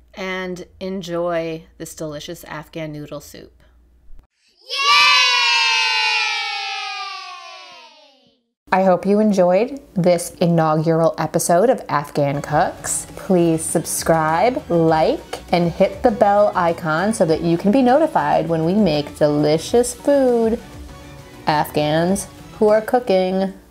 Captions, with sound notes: And enjoy this delicious Afghan noodle soup. (children cheering) I hope you enjoyed this inaugural episode of Afghan Cooks. Please subscribe, like, and hit the bell icon so that you can be notified when we make delicious food, Afghans who are cooking.